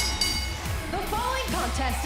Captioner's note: bell ringing